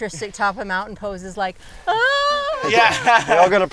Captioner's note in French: rires